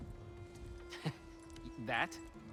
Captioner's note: laugh